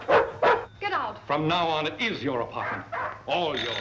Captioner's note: barking